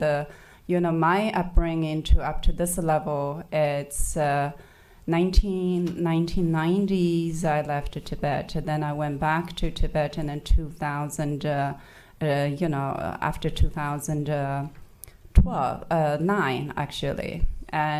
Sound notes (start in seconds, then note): none